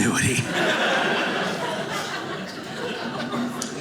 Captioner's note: audience laughing